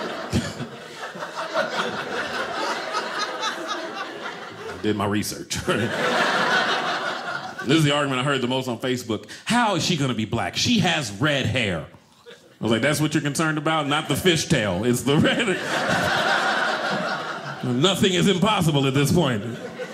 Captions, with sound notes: (audience laughing) I did my research. (audience laughing) This is the argument I heard the most on Facebook. How is she going to be black? She has red hair. I was like, that's what you're concerned about. Not the fish tail, it's the red. (audience laughing) Nothing is impossible at this point.